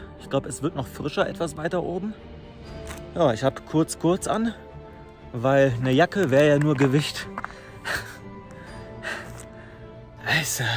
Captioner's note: haha